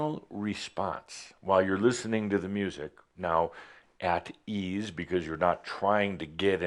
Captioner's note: none